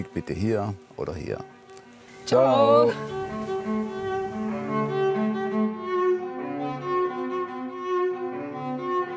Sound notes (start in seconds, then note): 3.8 emotional sounds